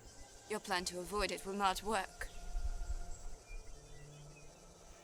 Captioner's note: none